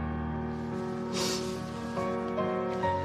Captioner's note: Bridget sniffles